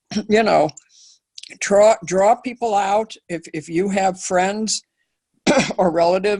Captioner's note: cough